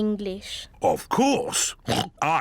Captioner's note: oinks